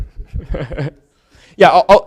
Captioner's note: laughs